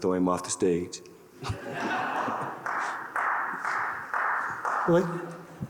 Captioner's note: audience laughing